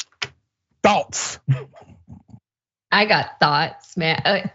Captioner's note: laugh